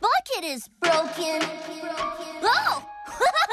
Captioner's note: echoes; laughs